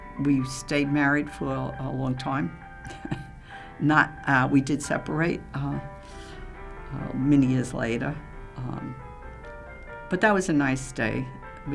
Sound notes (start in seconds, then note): 2.9 laughing